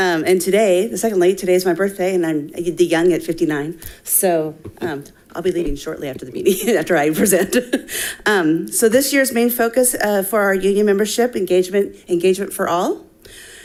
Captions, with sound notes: And today, secondly, today's my birthday, and I'm young at 59. So I'll be leaving shortly after the meeting, after I present. (laughs) So this year's main focus for our union membership, engagement for all.